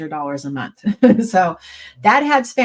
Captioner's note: chuckles